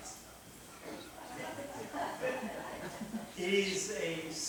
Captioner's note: laughter